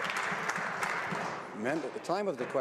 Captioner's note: some Applause